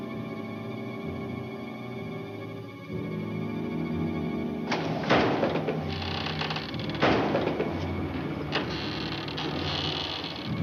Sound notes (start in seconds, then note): 4.7 thumping